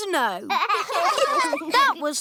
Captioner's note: laughter